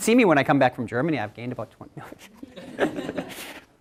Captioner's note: laughter